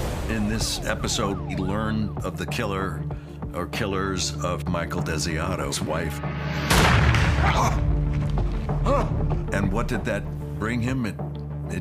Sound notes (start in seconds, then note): 6.6 gunshot